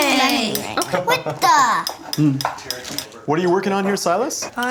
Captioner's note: laughing